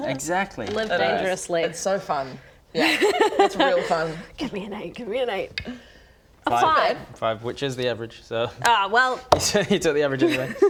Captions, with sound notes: exactly! live dangerously it's so fun... *unconvinced laugh* it's real fun give me an 8 give me an 8 - 5 - not bad 5, which is the average so ah well so you took the average anyway